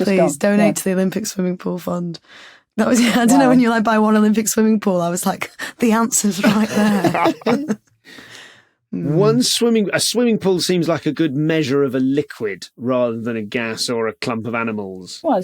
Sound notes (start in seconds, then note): 6.4 group chuckling